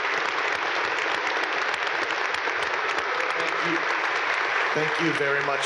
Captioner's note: audience applaud